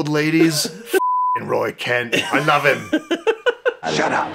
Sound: beeping

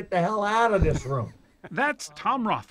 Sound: laughing

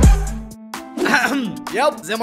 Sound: clears throat

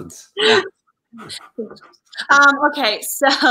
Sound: laughing

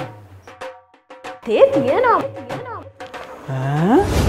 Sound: voice echoes

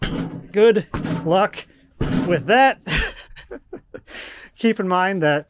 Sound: metal clanking

